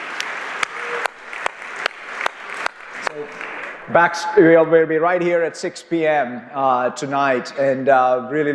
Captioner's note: cheers and applause